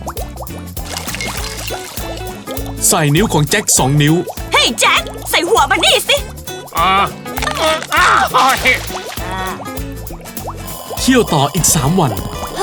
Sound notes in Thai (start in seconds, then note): 7.6 ร้องจ๊าก